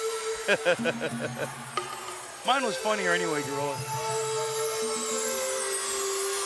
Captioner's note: laughs